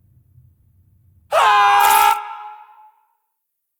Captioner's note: screaming